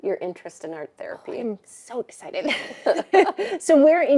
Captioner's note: both laughing